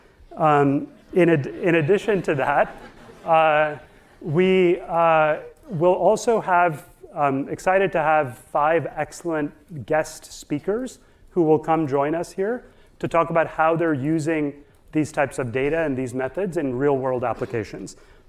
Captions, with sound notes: (audience laughing) In addition to that, we will also have, excited to have five excellent guest speakers who will come join us here to talk about how they're using these types of data and these methods in real-world applications.